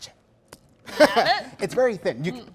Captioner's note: laughs